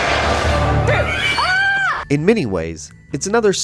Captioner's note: screams